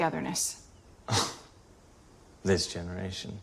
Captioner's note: scoffs